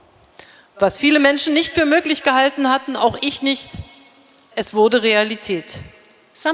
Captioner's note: speaking in German